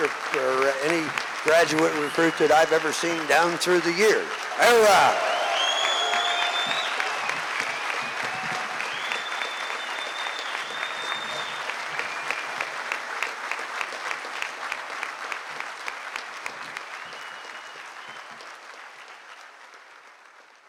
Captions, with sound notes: or any graduate recruit that I've ever seen down through the years. OOH RAH! [Audience Cheering and Clapping]